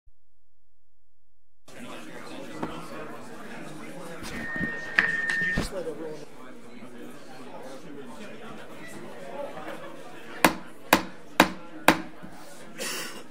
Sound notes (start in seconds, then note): 1.7 overlapping chattering; 10.3 gavel bangs